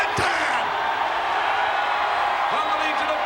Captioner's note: crowd cheering